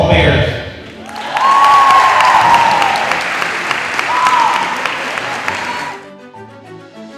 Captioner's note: students applauding; students cheers; uplifting music